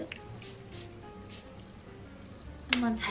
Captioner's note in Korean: 치-익! / 치-익!